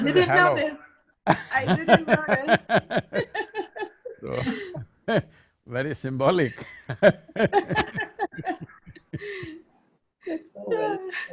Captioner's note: laughter; laughter